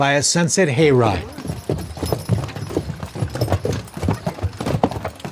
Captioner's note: hooves stomping